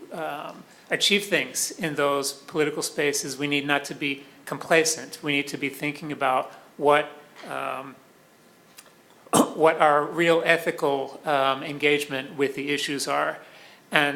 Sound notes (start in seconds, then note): 9.3 cough